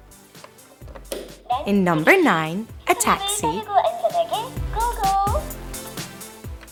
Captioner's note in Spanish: Suena una voz en Coreano